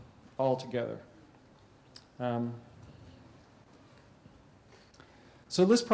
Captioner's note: pause